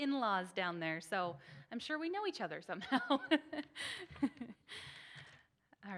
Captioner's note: laughs